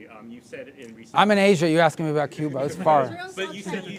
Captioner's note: laughter